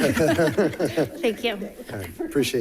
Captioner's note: laughing